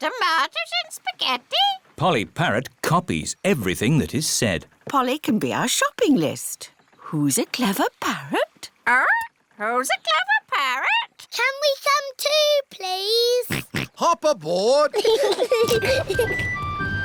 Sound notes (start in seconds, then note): 13.5 snorts; 14.9 peppa and george giggling